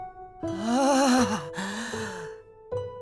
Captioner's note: tired sigh